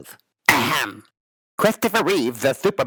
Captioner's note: clearing his throat